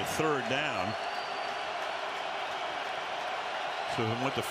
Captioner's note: cheers